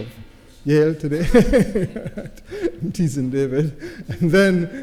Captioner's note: laughs